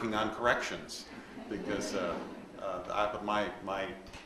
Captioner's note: audience laughs